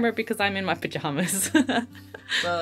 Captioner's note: laughs